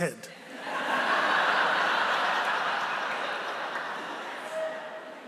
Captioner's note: laughter